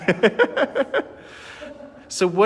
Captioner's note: laughing